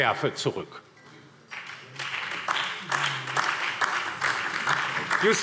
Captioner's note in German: Beifall DIE LINKE und vereinzelt SPD